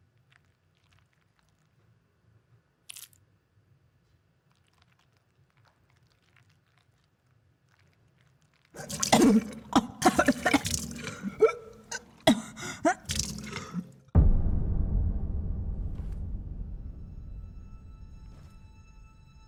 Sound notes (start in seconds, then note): 8.7 Ellie vomiting; 14.1 suspenseful music